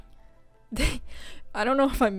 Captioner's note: laughs